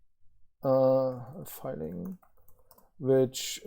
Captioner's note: keyboard clicking